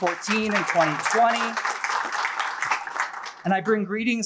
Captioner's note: applause